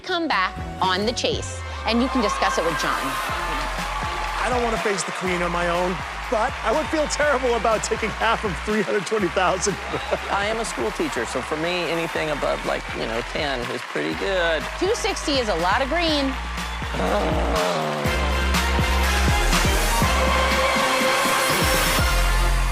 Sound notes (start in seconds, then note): 17.0 groans